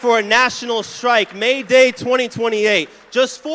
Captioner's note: applause